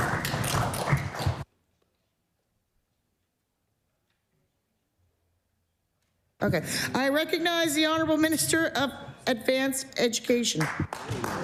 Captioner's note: applause